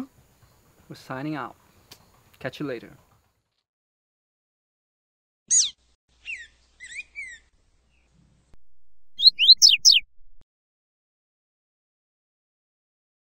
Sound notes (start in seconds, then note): 9.1 bird chirping